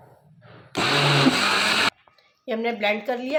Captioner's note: grinding